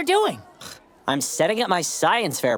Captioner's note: scoffing